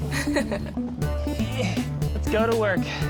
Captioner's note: laughs; grunts